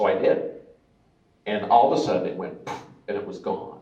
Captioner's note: poof